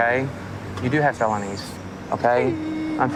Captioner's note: crying